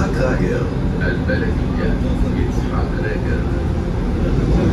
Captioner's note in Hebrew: ערבית